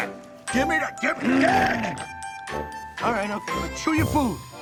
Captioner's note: player growls